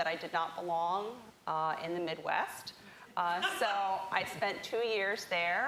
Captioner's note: laughter